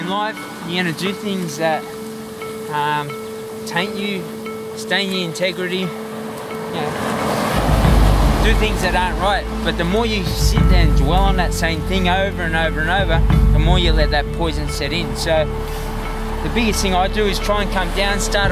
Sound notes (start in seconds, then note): 6.8 waves crashing